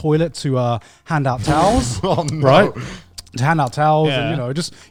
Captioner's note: chuckling